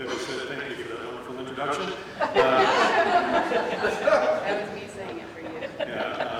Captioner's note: laughter